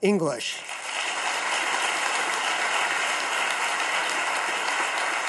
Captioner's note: audience claps